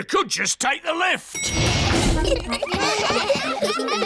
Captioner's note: elevator bell dings; all giggling